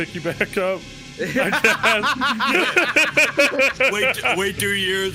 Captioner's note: all laughing